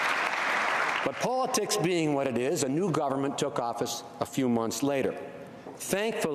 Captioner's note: applause